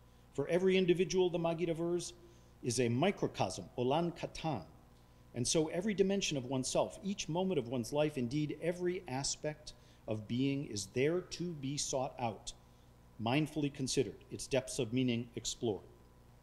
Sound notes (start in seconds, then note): 2.9 speaking foreign language